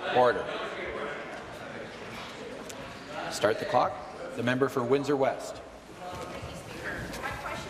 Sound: conversation din

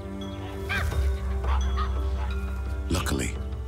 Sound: monkey chatters

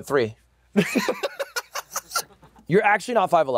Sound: laughs

